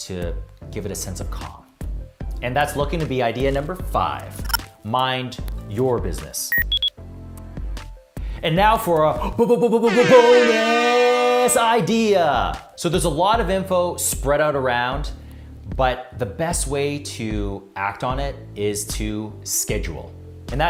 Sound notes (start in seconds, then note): 6.5 electronic beep; 9.8 air horn